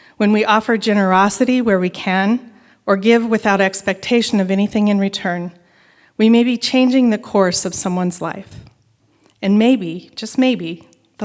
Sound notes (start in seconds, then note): none